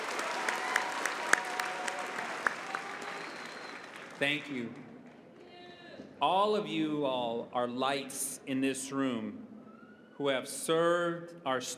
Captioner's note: cheering and applause